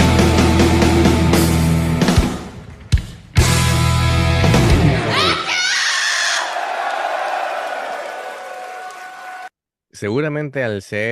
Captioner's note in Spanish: ovación